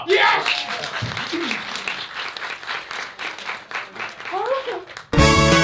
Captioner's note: applause